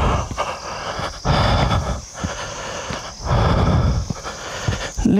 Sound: deep Breathing

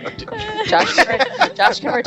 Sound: everyone laughs

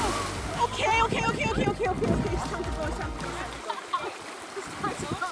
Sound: waves crashing; chatter and laughter

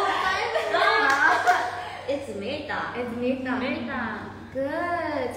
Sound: applause

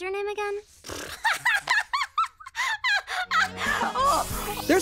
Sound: laughing

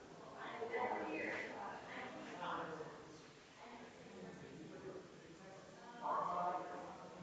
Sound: people chattering distantly continues

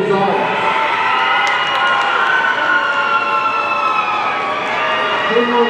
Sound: audience cheering

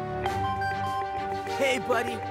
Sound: phone chiming

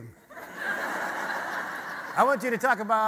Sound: audience laughter

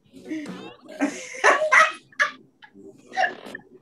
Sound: laughs

